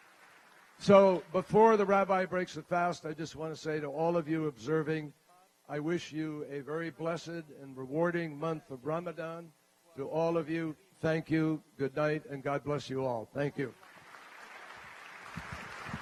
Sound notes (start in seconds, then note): 0.0 applause; 13.7 applause